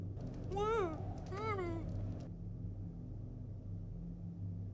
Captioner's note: Kate whimpering